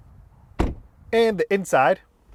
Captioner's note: door closes